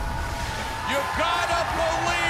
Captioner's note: cheers and applause